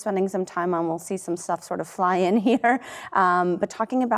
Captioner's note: chuckles